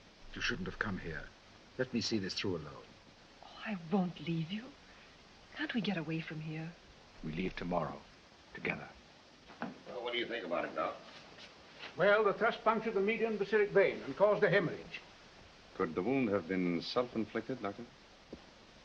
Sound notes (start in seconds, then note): none